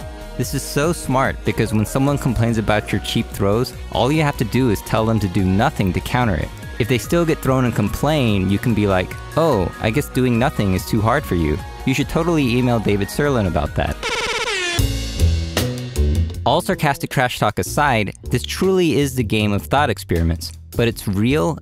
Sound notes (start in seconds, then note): 14.0 airhorns